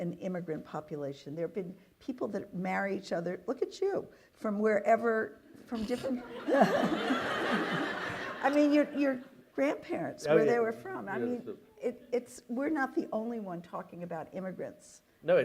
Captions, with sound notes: immigrant population, there have been people that marry each other... look at you! from wherever, from different [LAUGHTER] I mean your grandparents, where they were from It's, we're not the only one talking about immigrants